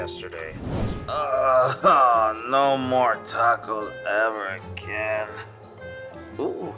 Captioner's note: groans